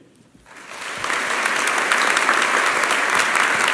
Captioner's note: applause